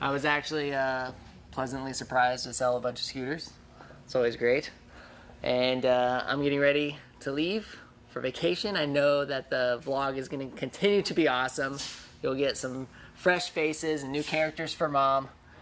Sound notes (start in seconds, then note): none